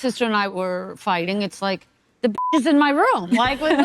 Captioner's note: beep